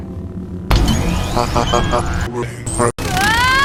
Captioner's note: Tactical droid laughing